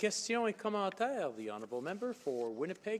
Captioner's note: some Applause